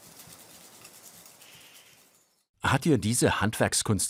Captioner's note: bird calls